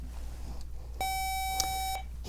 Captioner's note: buzzer